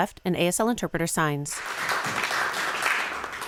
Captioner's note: audience applause